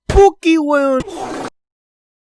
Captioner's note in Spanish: sonidos de pedos